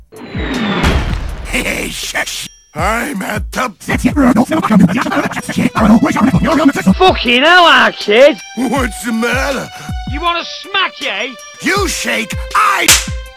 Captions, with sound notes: Hehey. Shish Im at the- *Sped Up Voice* FOOKIN EEL' KID Whats the matter? You Wanna Smack Ey? You Shake. I- *Slap*